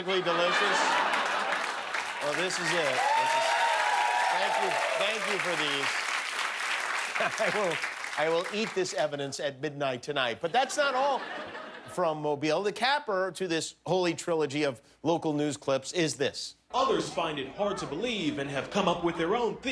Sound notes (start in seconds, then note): 0.0 laughter; 4.4 laughter; 4.7 cheers and applause